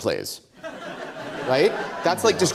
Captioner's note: audience Laughter